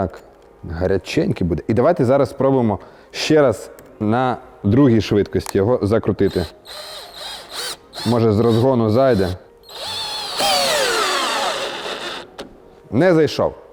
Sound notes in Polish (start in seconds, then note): 9.6 dźwięk wkrętarki